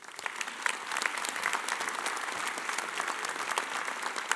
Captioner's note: audience applauding